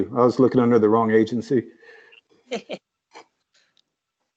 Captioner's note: laughs